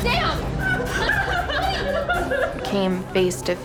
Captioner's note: screaming; crying